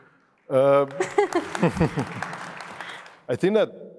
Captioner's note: audience applauding